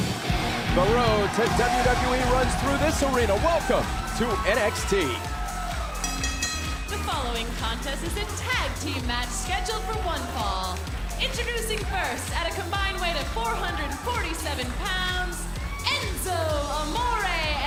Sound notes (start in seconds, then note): 4.2 bell ringing